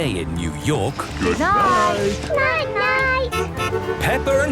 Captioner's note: honking